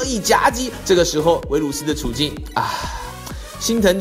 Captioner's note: sigh